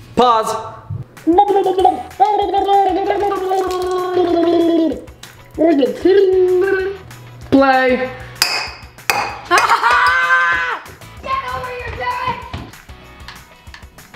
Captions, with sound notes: - Pause! (gurgling) (water pouring) - Play! (glass bouncing) - Ha ha ha! Get over here, Derek!